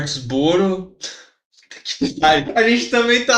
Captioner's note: laughing